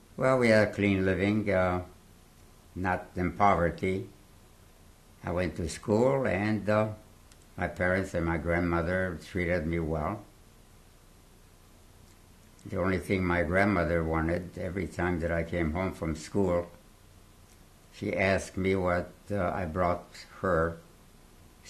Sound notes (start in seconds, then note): 10.1 pauses for 3 seconds